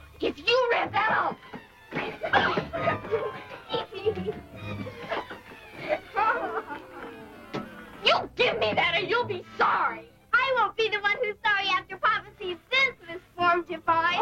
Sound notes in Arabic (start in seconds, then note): 0.5 موسيقى درامية; 2.0 يضحك; 11.3 موسيقى درامية